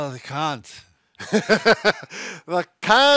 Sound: chuckles

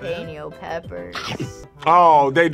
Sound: chomps

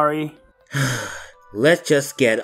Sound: sigh

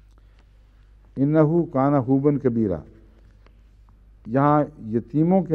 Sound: Arabic

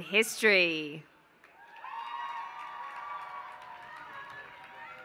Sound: applause

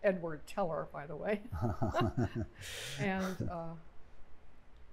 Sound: laughter

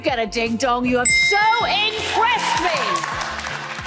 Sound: graphics dinging; audience clapping

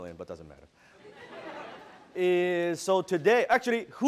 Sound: audience laughs

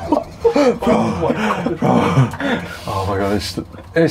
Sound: everyone yells; laughing; breathing hard

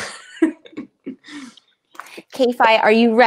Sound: laughing

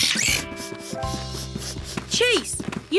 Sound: sniffing

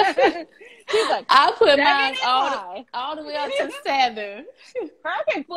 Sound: laughs

